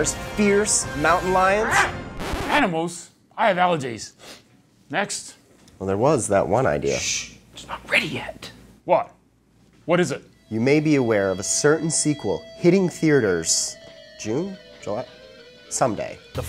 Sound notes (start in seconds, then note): 1.2 speaker growling; 2.2 record scratching; 12.3 suspenseful rock music